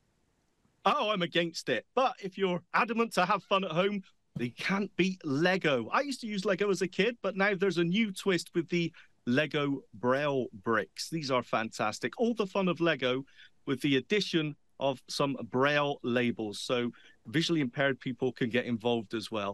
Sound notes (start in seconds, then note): none